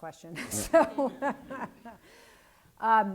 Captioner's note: laughs